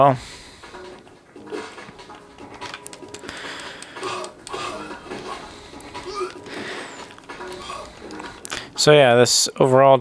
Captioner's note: various sounds of pain coming from the game characters